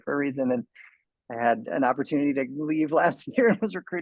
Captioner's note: man laughs